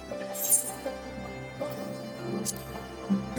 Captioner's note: sword clanking